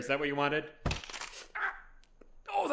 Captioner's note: wet crunch